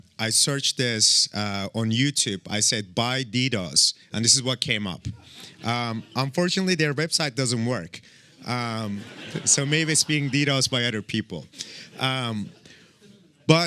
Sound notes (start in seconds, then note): 8.6 laughter